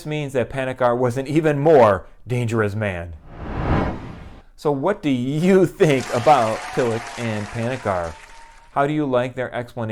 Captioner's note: applause